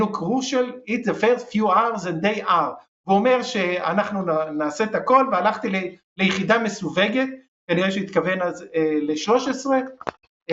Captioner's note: returns to Hebrew